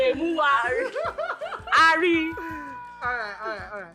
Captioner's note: laughs